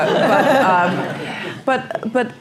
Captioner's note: laugh